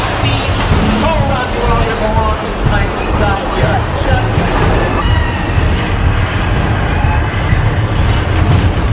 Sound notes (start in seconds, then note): 4.7 explosion